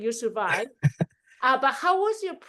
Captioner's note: chuckling